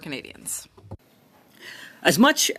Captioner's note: speaking French